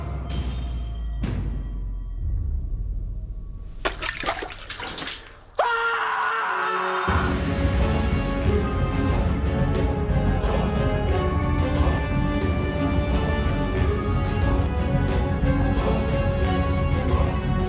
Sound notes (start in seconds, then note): 3.8 water splashes; 7.1 suspenseful music